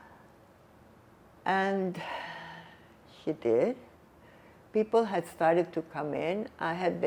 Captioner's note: sighing